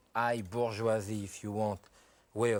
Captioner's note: speaks french